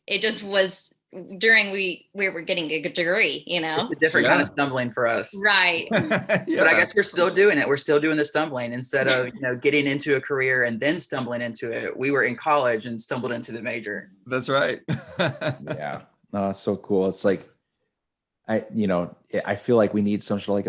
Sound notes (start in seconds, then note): 5.8 laughs; 14.4 laughs